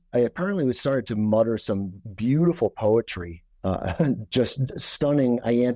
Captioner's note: laughs